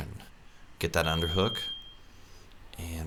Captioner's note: beep